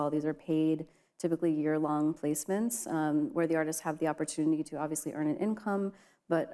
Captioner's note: none